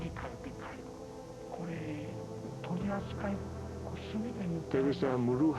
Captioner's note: continues in Japanese